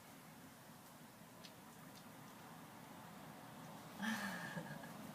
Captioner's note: laughs